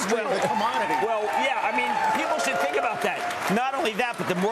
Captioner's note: applause